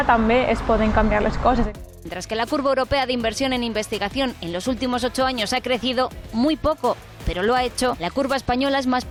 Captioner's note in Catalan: So d'informatius de televisió